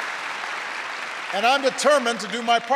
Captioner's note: applause